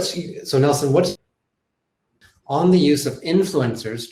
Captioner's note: audio drops